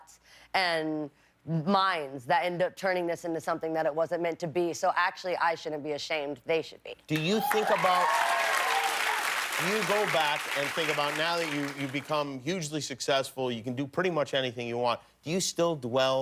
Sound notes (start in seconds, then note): 10.6 cheers and applause